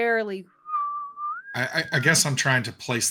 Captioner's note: wind whistles